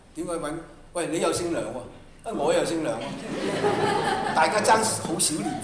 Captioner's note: laughter